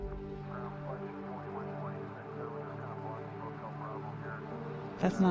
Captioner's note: background faint radio chatter